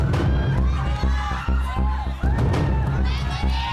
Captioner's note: audience screaming